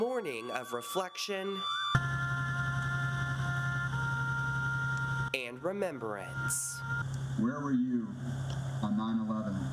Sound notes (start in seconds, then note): 3.5 CANNON/ emergency SIRENS NA; 5.5 trumpet/taps nat